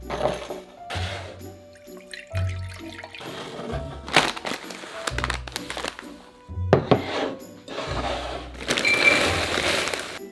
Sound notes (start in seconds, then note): 1.7 liquid pouring; 3.8 bag rustling; 6.8 bowl sliding; 8.4 bag pouring